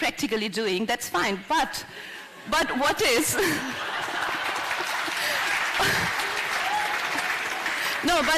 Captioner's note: laughter; applause